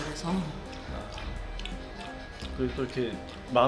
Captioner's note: slurp